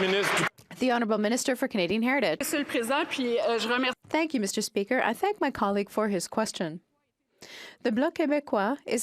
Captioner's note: some Applause